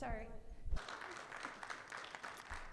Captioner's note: audience applauds